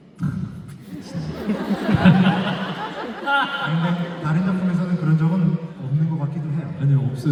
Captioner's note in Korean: 웃음